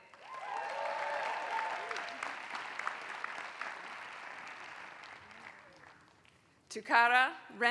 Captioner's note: applause